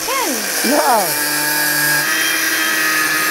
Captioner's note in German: Maschinenlärm